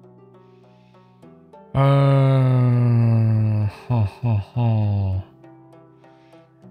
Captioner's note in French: Rire